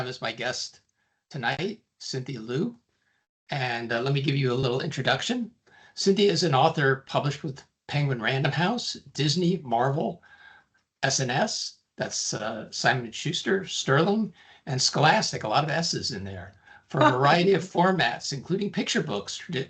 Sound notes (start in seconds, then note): 17.0 chcuckling